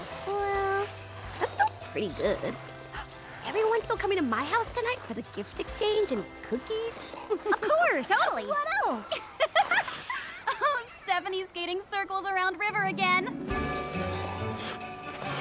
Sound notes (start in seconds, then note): 2.1 gasps; 6.7 giggles; 9.6 laughs; 12.1 upbeat holiday music